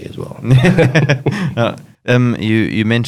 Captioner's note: both chuckling